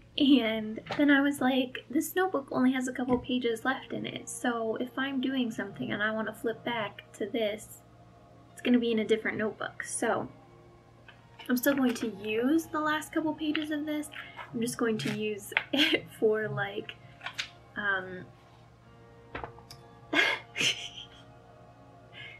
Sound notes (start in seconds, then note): 20.1 laugh